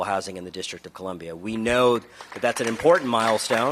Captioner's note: applause